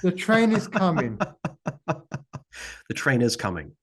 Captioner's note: laughing